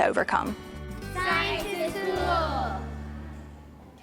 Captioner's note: children in unison